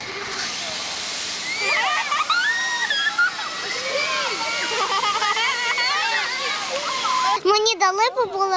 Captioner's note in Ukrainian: Шум води